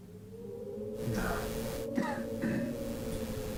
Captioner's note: coughs